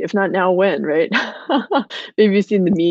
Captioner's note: laughing